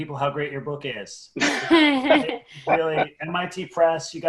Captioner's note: laughs